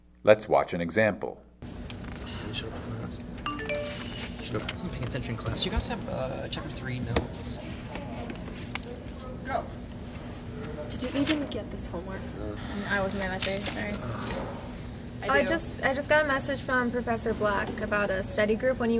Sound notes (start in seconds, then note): 3.4 phone notification